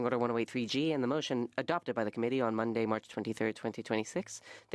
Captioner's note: speaking French